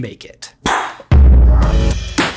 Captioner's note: imitates exploding brain booming; upbeat music